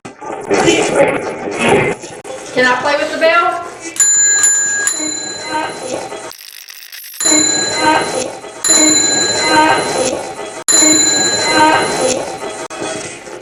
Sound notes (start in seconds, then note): 0.0 radio voice; 4.0 ringing; 6.2 radio scratching; 8.6 radio voice